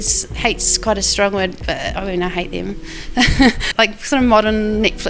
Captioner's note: laughs